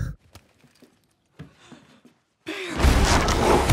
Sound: gasps

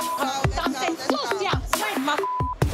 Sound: beep; speaking in foreign language; beep

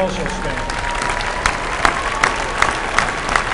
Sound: applause

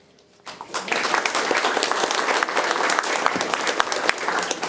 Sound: attendees applauding

